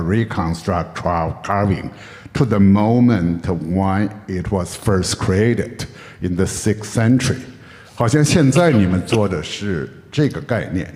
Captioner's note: in Mandarin